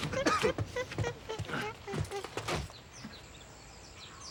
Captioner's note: Roger coughing; birds chirping